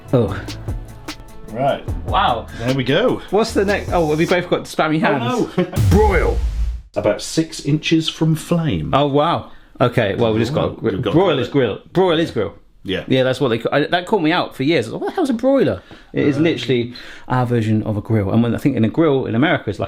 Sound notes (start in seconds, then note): 5.7 laughing; 5.7 drumbeat music